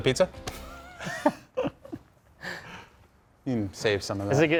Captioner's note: both laughing